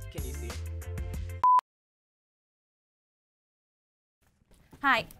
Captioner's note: monotonous high pitch sound